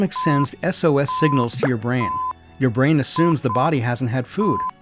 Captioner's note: SOS alarm